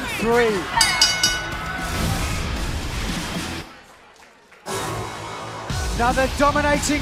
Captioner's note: bell ringing